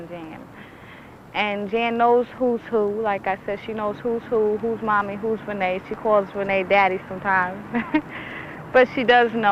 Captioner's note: laughs